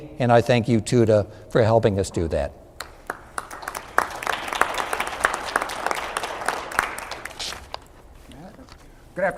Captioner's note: applause